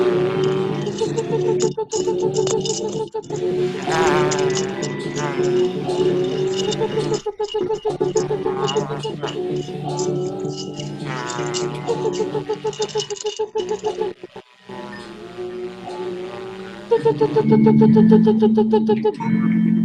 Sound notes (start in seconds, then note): 14.3 whimpers